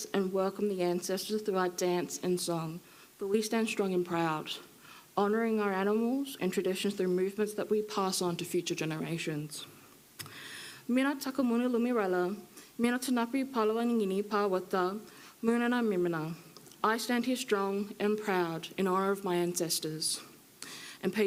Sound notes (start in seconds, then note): 11.0 speaking foreign language